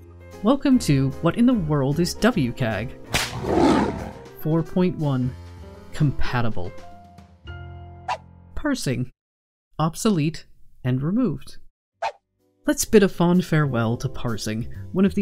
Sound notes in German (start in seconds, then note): 3.2 Tigergebrüll